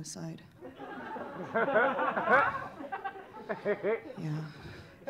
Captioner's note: audience laughing